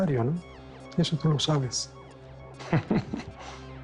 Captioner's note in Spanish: Ríe